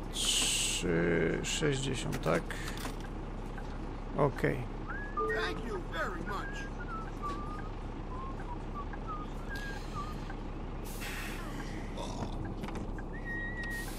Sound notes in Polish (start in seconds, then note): 5.1 gwizdy w kabinie pasażerskiej i głośne beknięcie